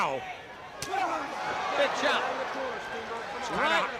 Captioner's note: crowd chatter